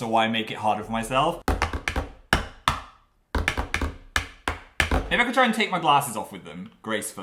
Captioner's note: tiny hands drumming